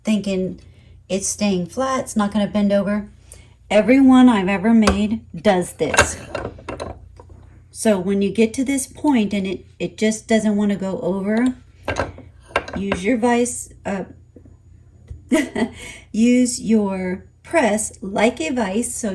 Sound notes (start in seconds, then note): 15.3 laughs